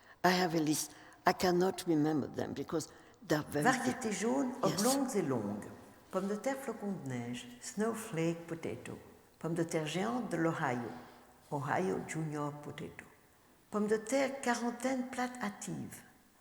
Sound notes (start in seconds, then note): 3.7 speaking french